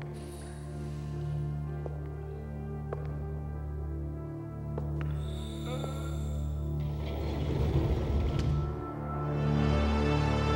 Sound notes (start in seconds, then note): 5.2 moaning